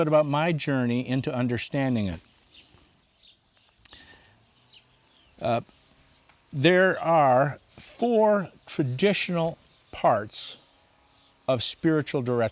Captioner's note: birds chirping